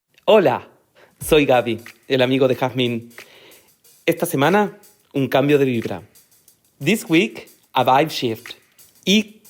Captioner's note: speaking Spanish